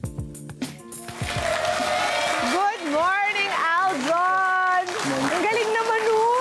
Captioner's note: audience applause